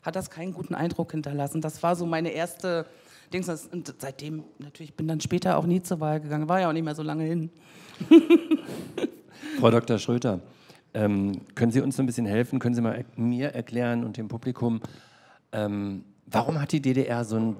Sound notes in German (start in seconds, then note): 7.8 Lachen